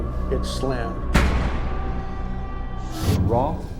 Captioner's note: door slamming